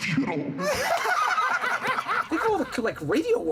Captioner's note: laughter